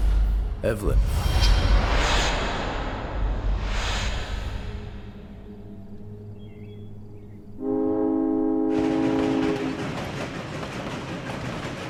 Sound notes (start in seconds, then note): 7.5 train horn bellowing; 8.3 train rattling